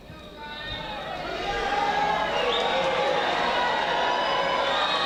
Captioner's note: graduates cheering